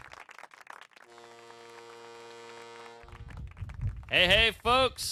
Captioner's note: foghorn blows